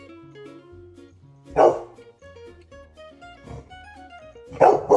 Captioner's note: woof woof